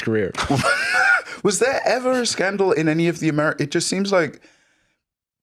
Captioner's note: laughs